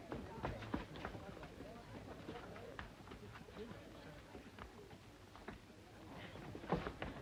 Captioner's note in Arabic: خطوات; ثرثرة خافتة